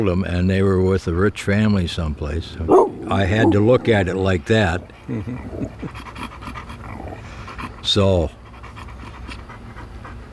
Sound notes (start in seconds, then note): 2.6 dog barking; 6.2 dog growling